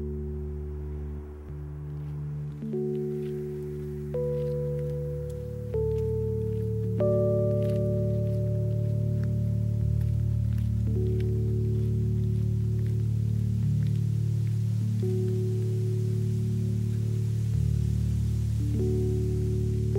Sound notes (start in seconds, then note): 16.2 footsteps fade